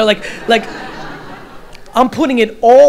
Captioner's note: audience laughter